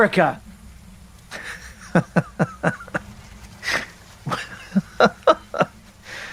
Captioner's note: laughing